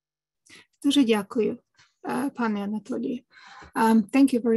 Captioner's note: speaking ukrainian